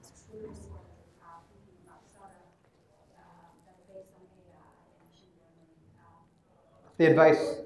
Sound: speaking away from mic

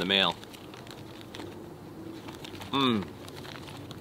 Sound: rustling paper

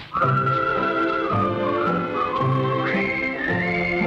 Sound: whistling

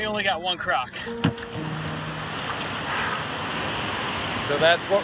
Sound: waterfall

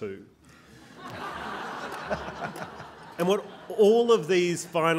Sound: laughing

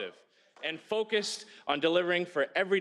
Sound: speaking french

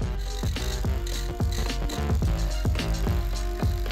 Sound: drill whirs

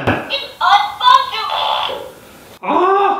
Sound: toy talking

